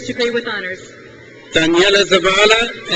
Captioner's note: crowd cheers